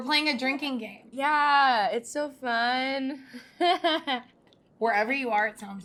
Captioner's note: laughs